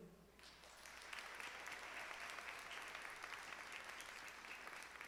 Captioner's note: audience clapping